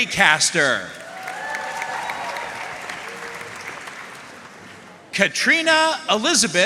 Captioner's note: audience cheering and applauding